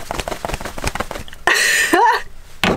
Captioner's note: laughing